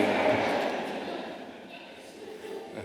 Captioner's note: laughter